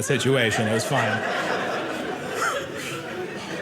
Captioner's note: audience laughing